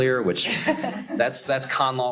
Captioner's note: laughter